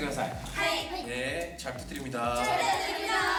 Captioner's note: speaking Japanese